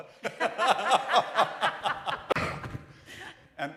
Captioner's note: laughter